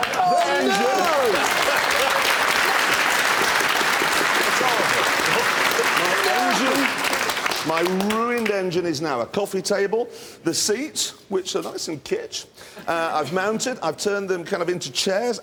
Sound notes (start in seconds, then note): 2.2 clapping